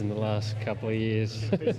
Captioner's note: multiple voices speaking